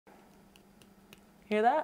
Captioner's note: clacking noises